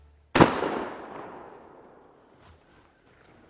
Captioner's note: boom